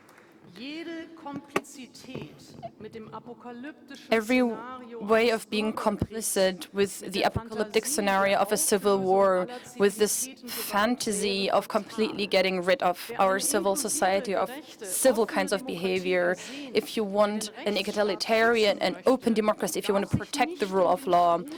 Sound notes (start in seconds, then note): 3.0 applause